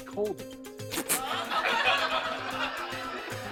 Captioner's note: laughter